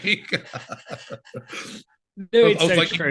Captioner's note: laughing